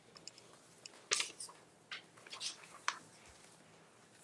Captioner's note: paper rustling